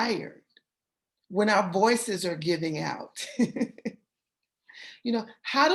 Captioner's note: laughter